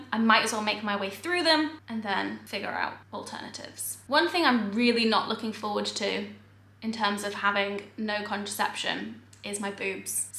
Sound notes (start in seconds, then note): none